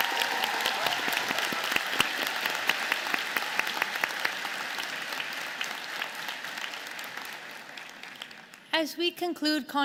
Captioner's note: applause